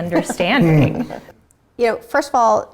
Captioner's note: all laughing